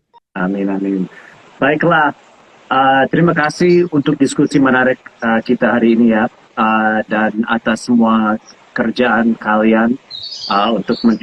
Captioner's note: non-english speech